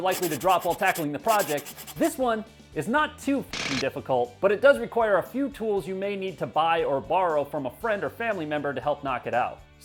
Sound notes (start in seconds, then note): 2.8 drilling